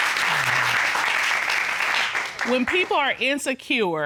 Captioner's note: applause